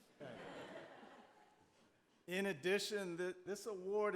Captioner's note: audience laughing